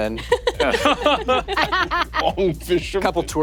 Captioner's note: cast laughing